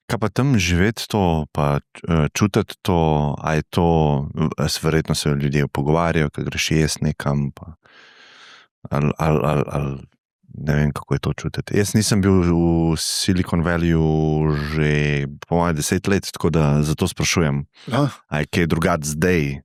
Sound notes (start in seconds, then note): 7.8 gaps in breath